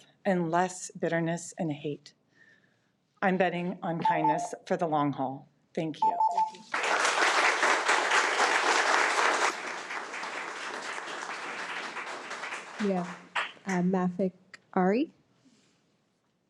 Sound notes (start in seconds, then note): 5.9 timer beeps; 9.7 attendees applaud